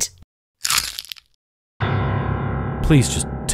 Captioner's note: mortifying piano note; smash